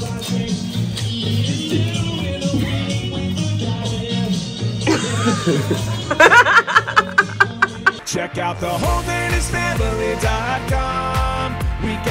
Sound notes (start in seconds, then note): 5.0 crew laughs